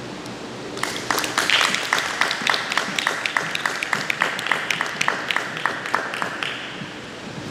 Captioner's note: applause